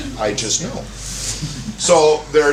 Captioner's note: laughter